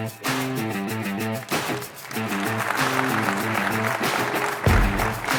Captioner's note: applause